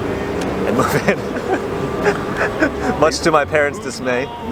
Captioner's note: laughs